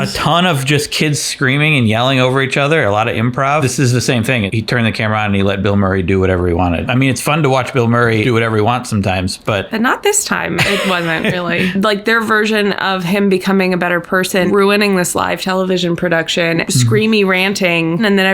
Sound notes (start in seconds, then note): 10.6 laughs